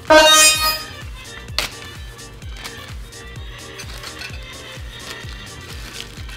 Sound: high pitched electronic sound effect

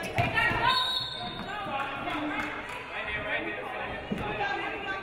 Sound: referee blows whistle

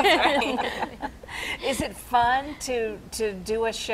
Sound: laughing

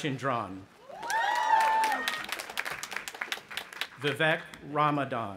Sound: audience applauding and cheering

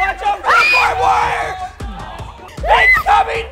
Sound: screams

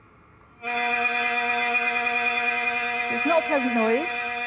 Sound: harsh humming

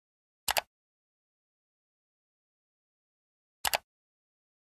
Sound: mouse button clicking

